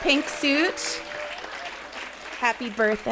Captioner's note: audience applauding